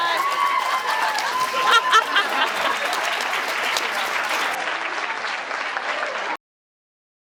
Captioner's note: applauds; applauds, cheers